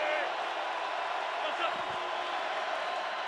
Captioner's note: crowd cheering